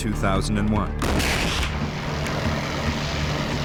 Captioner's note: gunshots